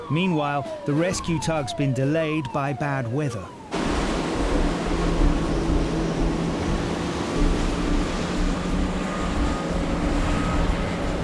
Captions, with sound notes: Meanwhile, the rescue tug's been delayed by bad weather. (waves crashing) (motor whirring)